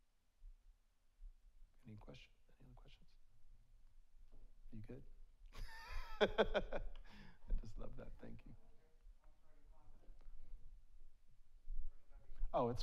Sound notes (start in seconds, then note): 5.6 laughs